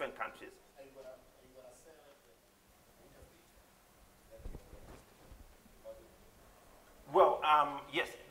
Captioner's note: off mic